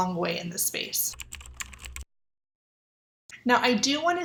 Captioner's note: keyboard typing